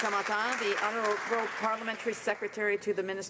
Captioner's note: some Applause